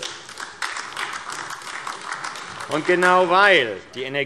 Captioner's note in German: Beifall AfD